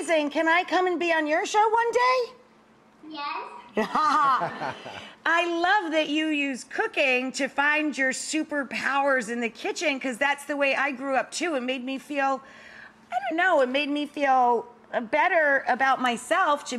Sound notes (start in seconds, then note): 3.7 laughing